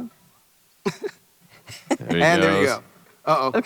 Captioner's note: Abrams chuckles